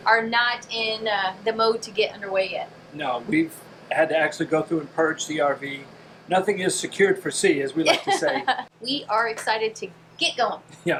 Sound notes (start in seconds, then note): 7.8 laughs